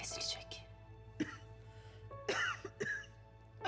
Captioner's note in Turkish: Öksürme sesi